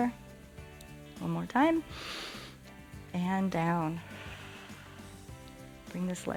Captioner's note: inhales; exhales